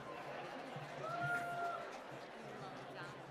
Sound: applause

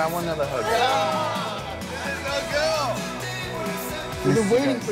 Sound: group cheering

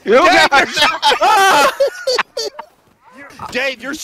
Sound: laughter; screaming

